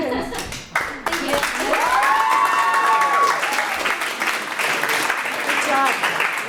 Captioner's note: audience applauds